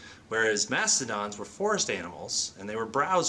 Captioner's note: none